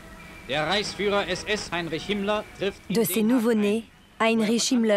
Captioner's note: German spoken audio